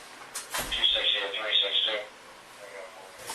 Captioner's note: radio chatter